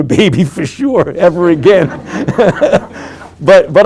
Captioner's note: laughing; group laughing